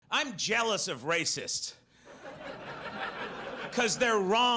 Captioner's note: audience laughs